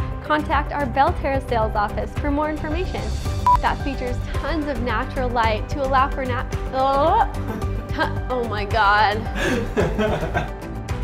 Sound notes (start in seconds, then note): 3.4 beep; 9.4 laughs